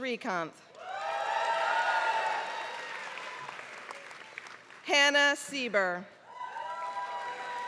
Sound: applause; applause

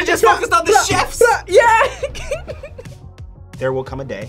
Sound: laughs

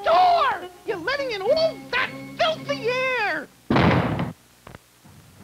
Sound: door bangs shut

